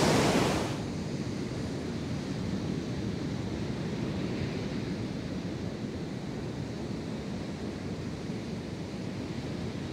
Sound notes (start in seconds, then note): 0.0 the sound of the waves grows softer